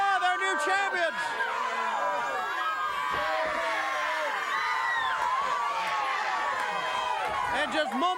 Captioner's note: applause